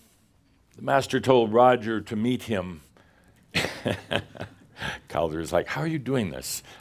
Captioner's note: Adamus chuckles